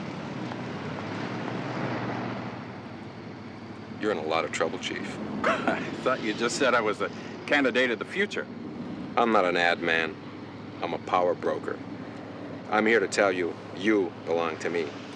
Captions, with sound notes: You're in a lot of trouble, chief. [laughs] I thought you just said I was the candidate of the future. I'm not an ad man. I'm a power broker. I'm here to tell you you belong to me.